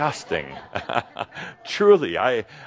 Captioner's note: some laughter